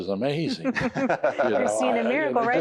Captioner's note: laughter